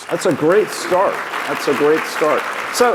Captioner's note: clapping